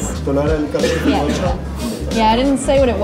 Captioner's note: speaking Spanish